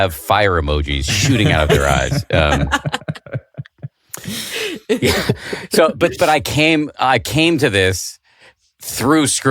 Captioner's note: laughter